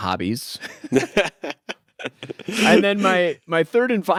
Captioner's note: both laugh